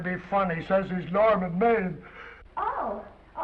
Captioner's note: yawns